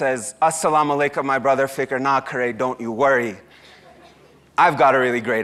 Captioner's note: speaks foreign language